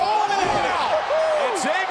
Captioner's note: commentators exclaim